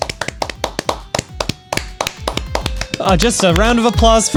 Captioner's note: clapping wildly